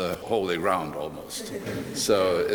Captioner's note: laughter